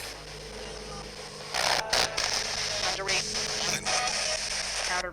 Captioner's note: spirit box voice